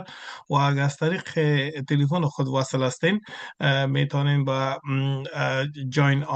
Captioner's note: interpreter speaking in Farsi continued